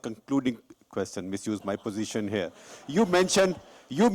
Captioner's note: laughter